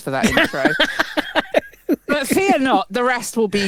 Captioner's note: laughs